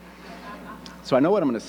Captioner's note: audience laughing